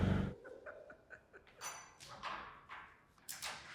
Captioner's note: chuckles